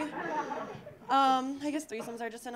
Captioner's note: audience laughing